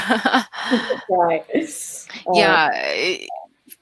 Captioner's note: laughing